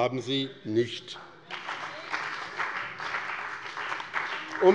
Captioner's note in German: Beifall bei dem BÜNDNIS 90/DIE GRÜNEN und der CDU